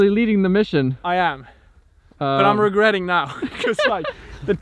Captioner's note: laughs